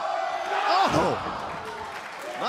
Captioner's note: cheers and applause